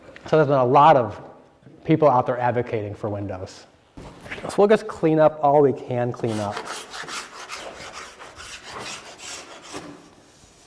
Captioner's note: sanding noise